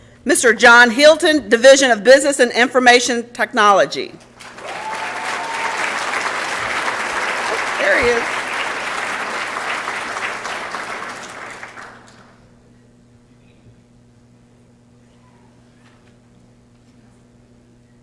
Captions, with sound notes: Mr. John Hilton, Division of Business and Information Technology. [ Applause and Cheering ] There he is. [ Applause ]